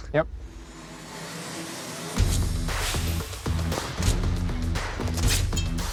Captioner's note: impact sounds